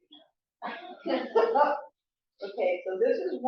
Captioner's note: laughs